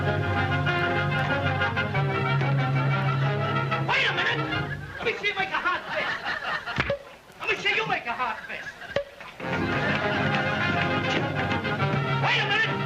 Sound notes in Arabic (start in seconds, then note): 0.0 موسيقى أوركسترالية درامية; 6.8 ضرب باليد; 9.4 موسيقى أوركسترالية مشرقة